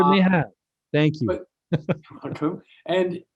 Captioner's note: laughing